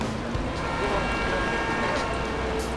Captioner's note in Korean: 도로의 경적 소리